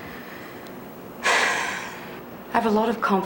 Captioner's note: sighs